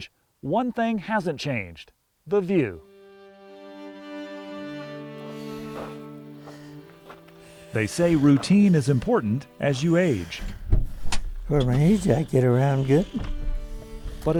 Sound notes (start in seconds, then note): 2.4 gentle music; 3.3 footsteps tapping